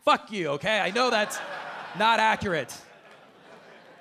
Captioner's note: audience laughing